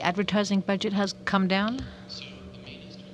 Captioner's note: speaking french